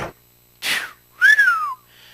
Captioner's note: whistles in satisfaction